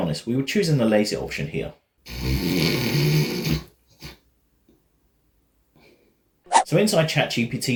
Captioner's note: snoring sounds